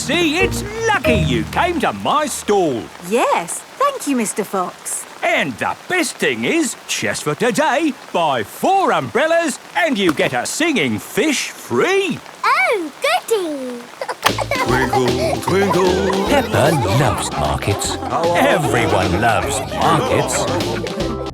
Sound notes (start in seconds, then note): 13.9 giggling